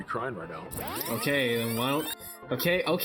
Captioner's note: stock rewind sound effect